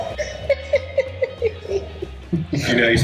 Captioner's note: laughing